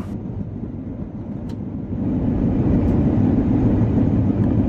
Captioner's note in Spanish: sonido del tren